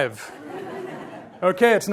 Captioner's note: audience laughs